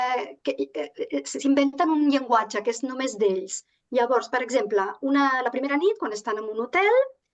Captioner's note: continues speaking in Catalan